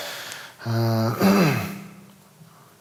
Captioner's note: clears throat